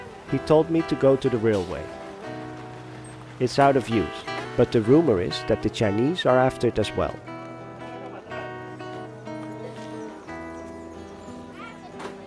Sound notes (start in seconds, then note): 8.5 crowd chattering